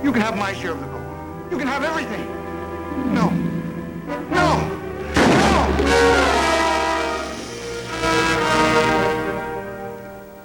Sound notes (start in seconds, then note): 5.1 gun shot